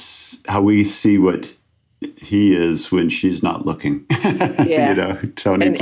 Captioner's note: laughs